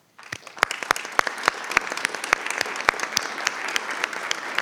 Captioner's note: applause